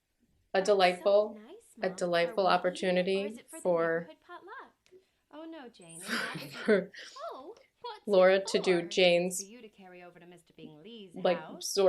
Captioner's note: laughter